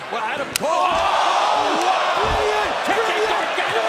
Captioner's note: crowd chatter